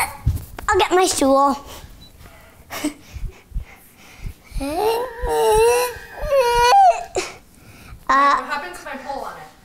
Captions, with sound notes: - (grunts) I'll get my stool. (laughs) (grunts)